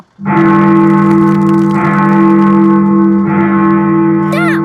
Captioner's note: bell tolling